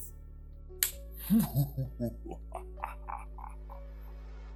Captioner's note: mua ha ha ha ha